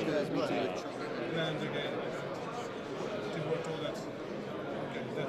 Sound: speaking foreign language

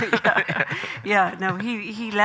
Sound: Graham laughing; laughs

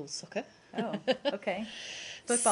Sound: laughter

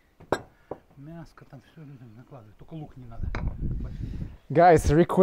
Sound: dishes clanking

